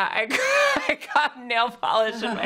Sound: laughs

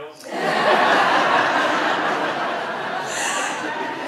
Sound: audience laughs

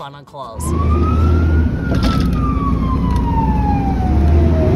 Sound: siren wailing

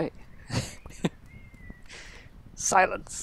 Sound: laughs

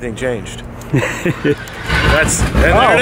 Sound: laughing

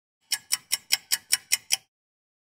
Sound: sound of a ticking clock

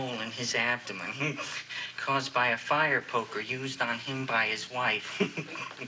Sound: chuckles

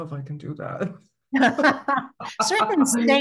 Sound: both laughing

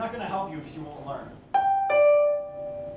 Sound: doorbell

